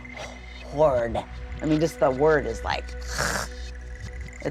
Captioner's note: gags